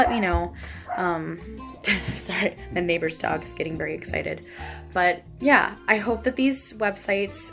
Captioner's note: barking in the background